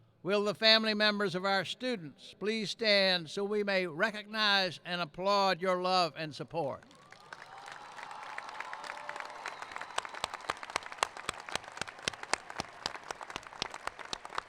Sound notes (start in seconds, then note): 6.7 applauding; 6.9 cheering